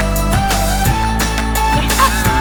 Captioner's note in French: Snif